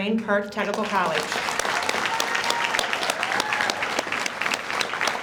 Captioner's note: audience applauds